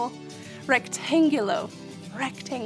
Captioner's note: speaking in foreign language